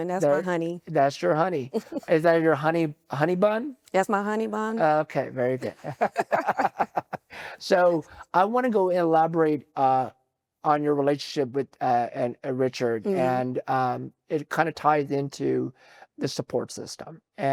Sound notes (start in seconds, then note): 5.6 both laughing